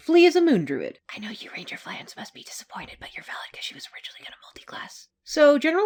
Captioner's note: whispering